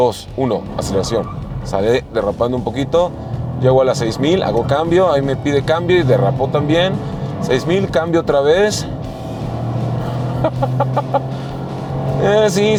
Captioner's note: laughs